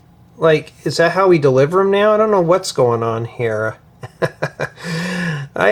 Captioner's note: laughter